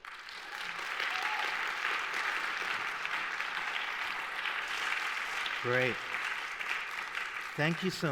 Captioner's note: applause